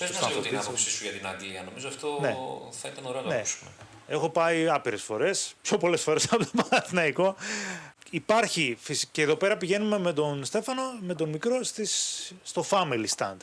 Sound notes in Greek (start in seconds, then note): 6.2 γέλια; 7.4 ξεφυσάει